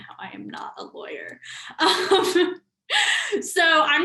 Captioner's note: laughs